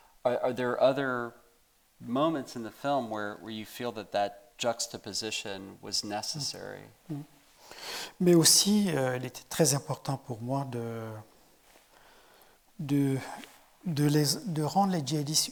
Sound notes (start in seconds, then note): 8.3 speaking in French